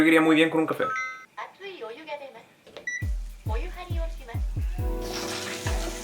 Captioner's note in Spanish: Sonidos de tina japonesa